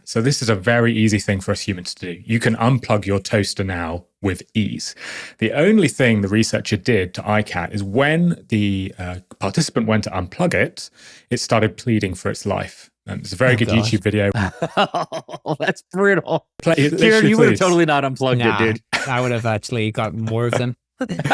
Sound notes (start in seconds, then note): 14.3 laughing